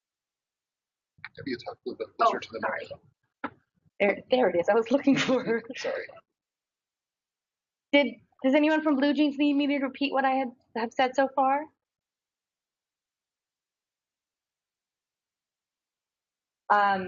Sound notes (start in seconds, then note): 1.7 man speaks through warped and choppy audio